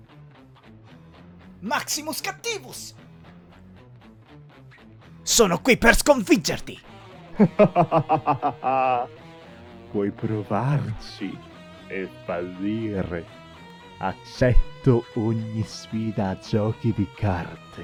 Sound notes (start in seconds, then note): 7.3 generic evil laugh